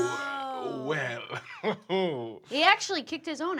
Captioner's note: laughs